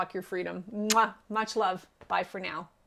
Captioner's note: kissing loudly